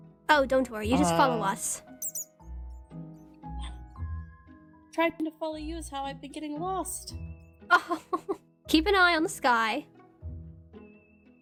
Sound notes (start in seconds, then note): 8.7 laughs